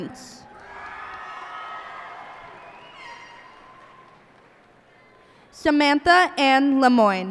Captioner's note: cheers and applause